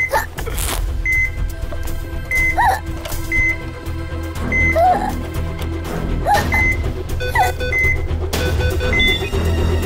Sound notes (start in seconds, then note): 2.4 Choking; 6.4 Beeping sound